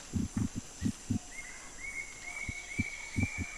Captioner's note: dull thudding